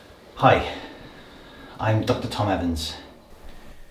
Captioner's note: deep breath